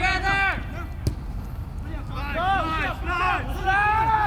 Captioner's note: players shouting